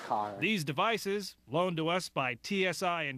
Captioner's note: voiceover